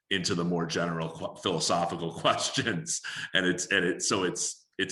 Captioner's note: chuckling